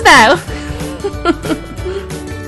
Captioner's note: laugh